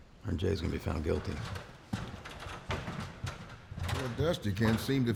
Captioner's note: clattering sound